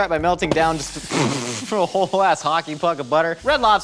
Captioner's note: laughs